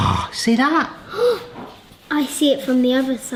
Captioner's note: gasps